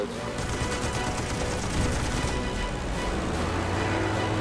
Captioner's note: gunfire